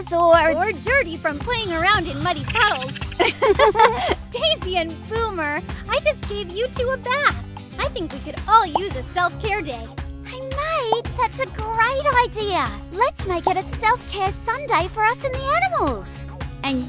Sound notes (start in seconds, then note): 2.3 both girls laugh